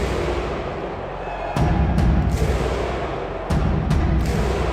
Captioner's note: crowd cheering